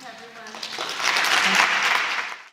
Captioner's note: applause